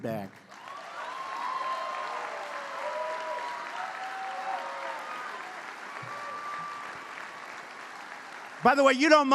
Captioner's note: applause